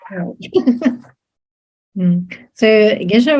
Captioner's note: laughs